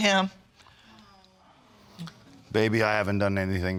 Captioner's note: audience sighing